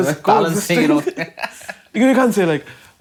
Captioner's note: laughing